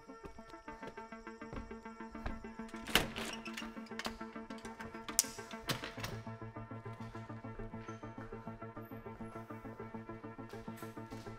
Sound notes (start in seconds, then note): 2.1 door creaking; 2.9 footsteps shuffling